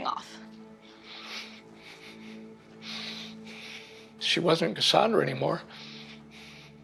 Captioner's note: breathing shakily